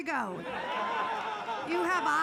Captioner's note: audience laughs